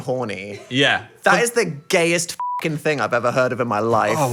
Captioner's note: beep